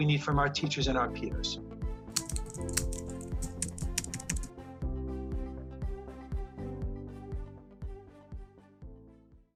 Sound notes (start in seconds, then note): 2.1 keyboard clicking; 7.3 upbeat music